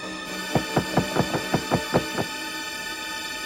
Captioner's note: pounding